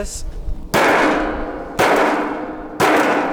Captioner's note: banging